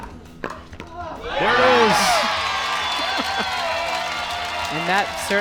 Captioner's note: crowd cheers